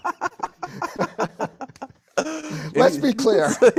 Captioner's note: laughter